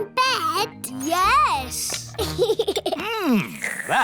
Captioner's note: giggles